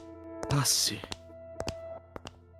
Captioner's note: footsteps